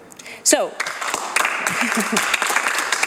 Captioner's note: applause